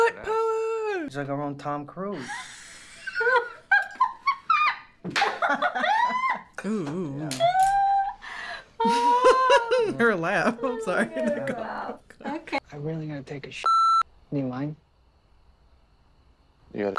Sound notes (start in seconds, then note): 2.2 woman laughing; 8.8 chuckles; 13.6 beep